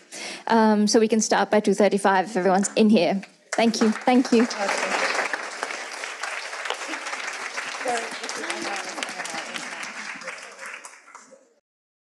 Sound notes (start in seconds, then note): 5.4 audience applauds